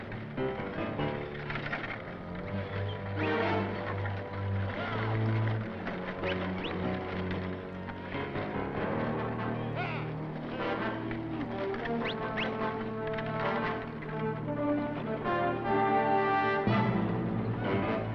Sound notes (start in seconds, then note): 0.1 tense music; 4.8 cowboys shouting; 6.2 cowboys whistling